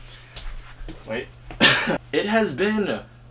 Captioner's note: coughs already